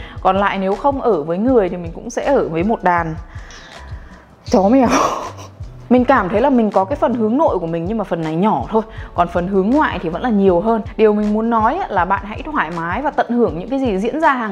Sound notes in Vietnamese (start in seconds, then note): 4.8 cười